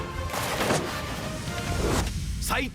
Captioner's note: sounds of sword battle